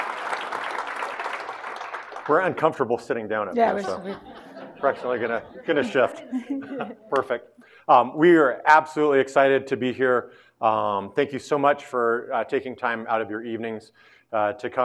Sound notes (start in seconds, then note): 6.5 all laughing; 7.1 claps